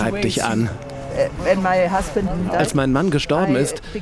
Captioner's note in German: englisch